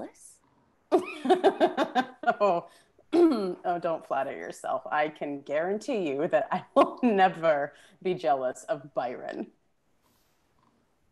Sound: laughs

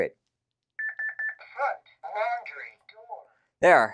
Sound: beeps

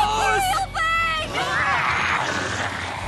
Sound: more evil ghost squid noises

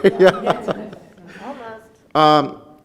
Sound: laughs

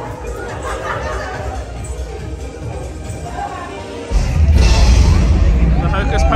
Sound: guests chattering and laughing

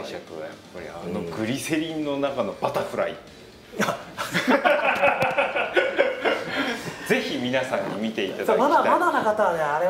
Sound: laughs

